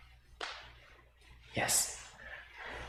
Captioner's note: whispers